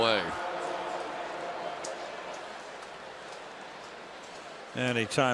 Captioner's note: pa announcement